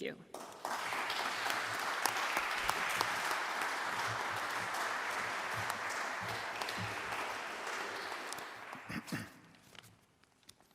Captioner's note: applause